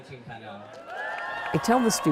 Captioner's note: applause